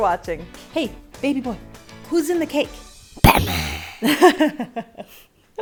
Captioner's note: in batman's voice